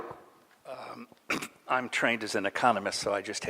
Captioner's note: clears throat